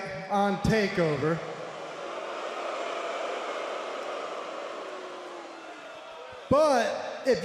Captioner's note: crowd cheering